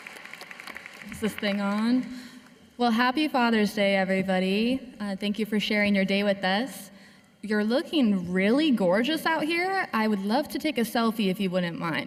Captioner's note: cheers and applause